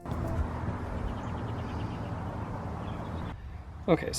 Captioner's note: birds chirp